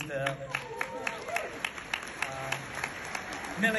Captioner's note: audience applauds